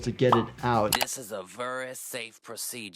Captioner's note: mouse clicks